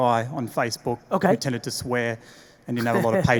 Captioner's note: laughs